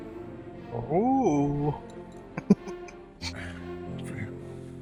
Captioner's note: chuckling